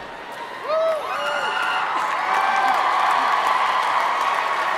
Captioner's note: crowd cheering